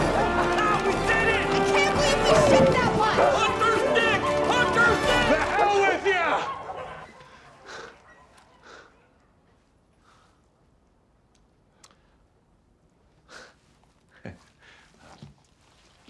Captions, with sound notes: [dogs clamoring] Ah, we did it! I can’t believe we shit that much! Hunter’s dick! Hunter’s dick! The hell with ya! [panting] [chuckles]